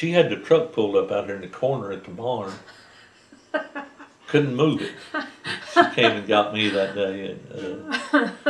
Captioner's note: laughter